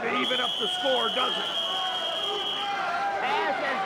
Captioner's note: spectators cheering